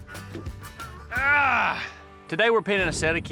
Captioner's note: grunts